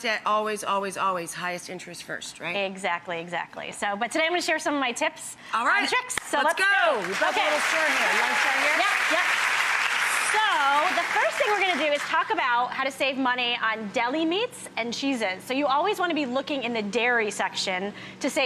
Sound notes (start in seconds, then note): 10.5 applause